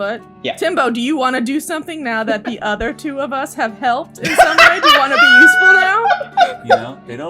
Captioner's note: laughter